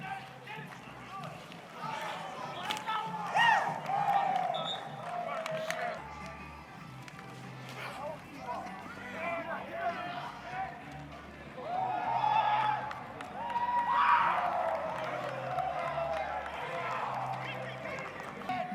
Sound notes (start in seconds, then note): 3.3 cheering; 4.2 whistle blowing; 14.4 cheering